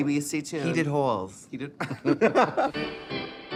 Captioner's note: both laughing